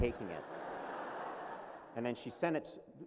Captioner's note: laughter